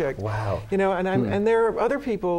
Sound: laughs

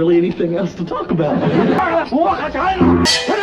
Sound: foreign yelling

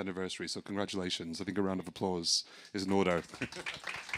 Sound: audience applauding; laughs

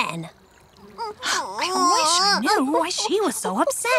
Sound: Glimmer crying

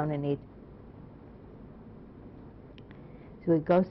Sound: pauses for 3 seconds

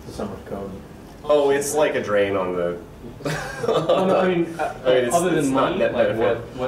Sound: laughs

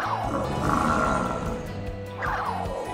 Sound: growls

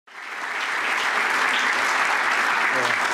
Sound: applause

